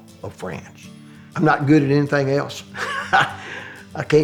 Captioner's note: laugh